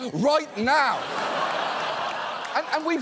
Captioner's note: studio audience laughs